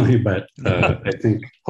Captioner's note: laughing